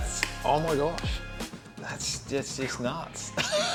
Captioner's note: he laughs